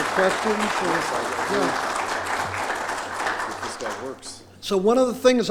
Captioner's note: applause